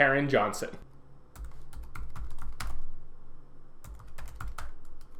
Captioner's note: keyboard typing